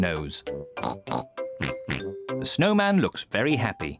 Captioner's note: both snort